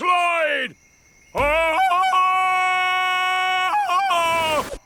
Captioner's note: ululating